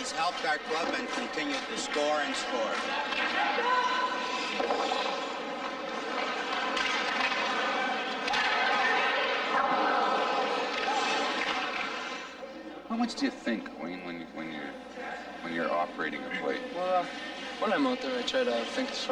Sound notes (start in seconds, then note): 4.9 shouting; 7.8 ice scraping